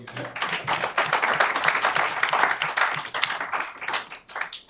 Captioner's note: applause